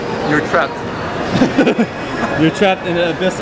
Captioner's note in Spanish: la risa